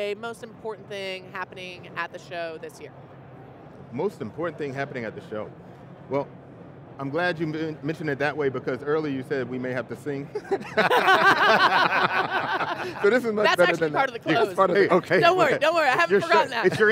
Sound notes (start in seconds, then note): 10.3 presenters and guests all laughing